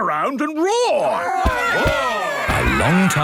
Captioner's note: all roaring